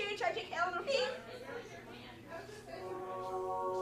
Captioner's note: laughs; guests chatter